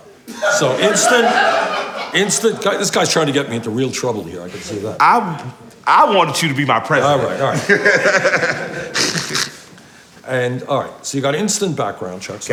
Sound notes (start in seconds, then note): 1.8 people laughing; 7.3 laughing